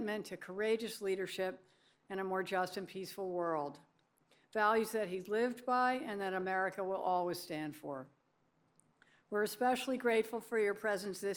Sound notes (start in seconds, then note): none